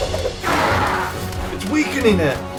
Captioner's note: game whooshing; blue border grunting